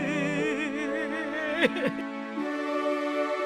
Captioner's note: sobbing